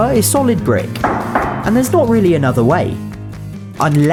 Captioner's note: knocks twice